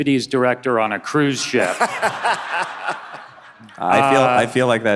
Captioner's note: all laughing